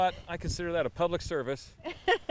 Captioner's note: laughs